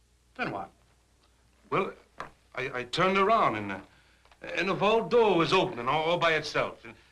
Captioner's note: none